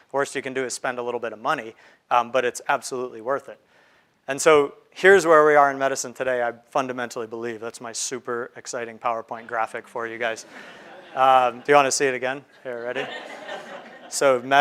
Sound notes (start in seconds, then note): 9.4 crowd laughing